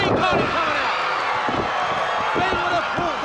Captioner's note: crowd cheering